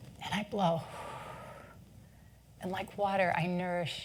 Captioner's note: exhales deeply